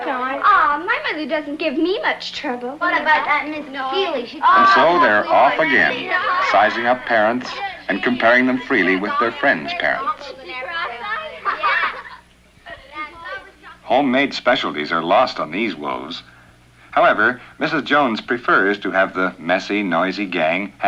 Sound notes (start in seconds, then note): 2.6 chattering resumes; 10.5 chattering and giggling